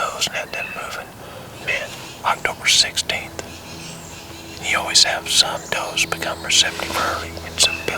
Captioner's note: whispering